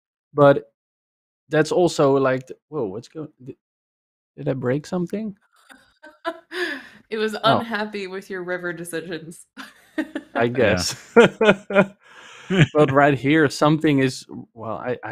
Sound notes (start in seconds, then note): 7.4 laughs; 9.8 laughs; 12.0 laughter